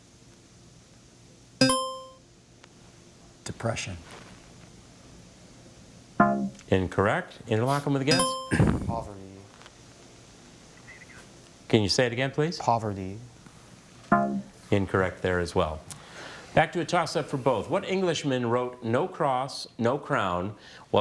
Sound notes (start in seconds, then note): 1.6 buzzer chimes; 6.2 bell blares; 8.1 buzzer chimes; 14.2 bell blares